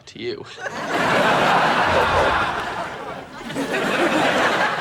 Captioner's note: audience laughing